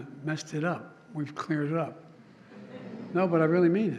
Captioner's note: laughter